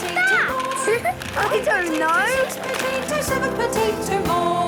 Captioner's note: laughing